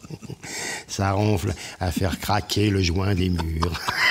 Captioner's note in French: Rires